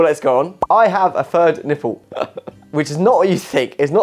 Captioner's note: laughing